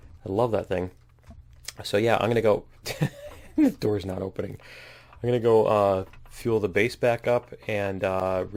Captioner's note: laughs